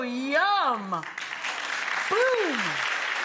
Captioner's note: audience applauds